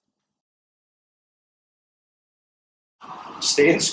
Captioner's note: silence